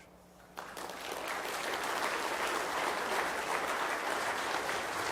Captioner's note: audience applauding